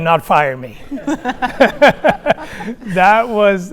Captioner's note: audience laughing